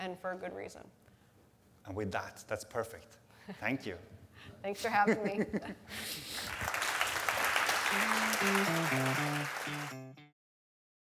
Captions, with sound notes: and for a good reason? - And with that, that's perfect. Thank you. (laughs) - Thanks for having me. (audience applauds) (upbeat music)